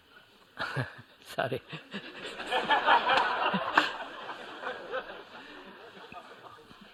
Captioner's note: laughter